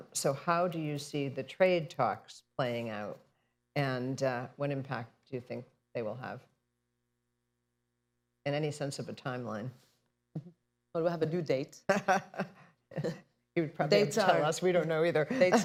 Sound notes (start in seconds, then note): 10.3 laughs; 12.9 laughter